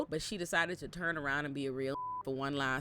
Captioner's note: beep